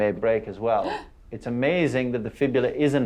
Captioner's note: gasps